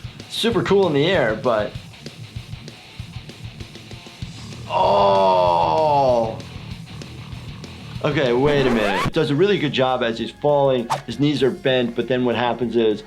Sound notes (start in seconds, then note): 8.0 record screeching